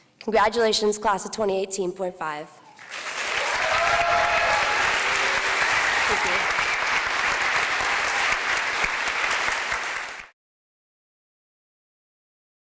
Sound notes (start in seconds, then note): 2.8 cheering